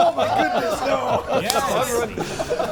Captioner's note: players laughing